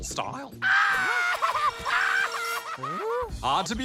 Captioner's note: laughs crazily